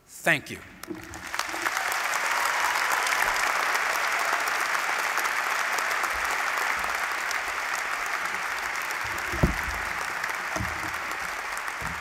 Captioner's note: applause